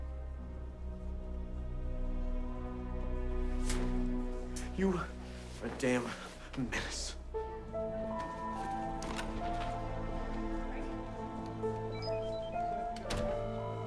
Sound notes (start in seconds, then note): 0.8 gentle tense music; 9.0 door latch clicks; 11.5 mystical music